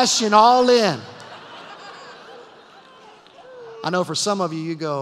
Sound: laughter

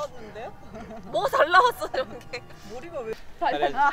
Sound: hahahaha

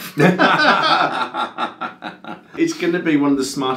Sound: both men laughing

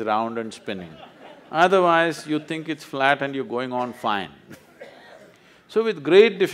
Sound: laughs

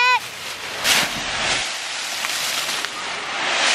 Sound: rustling

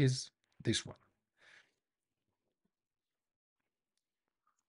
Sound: silence

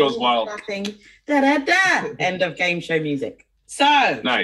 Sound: imitating game show music

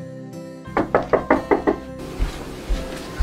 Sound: door knocks

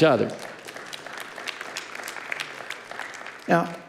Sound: congregation applauding

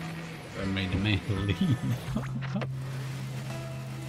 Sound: speaking in tongues?

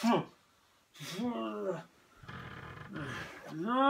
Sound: is moaning

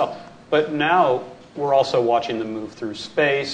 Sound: none

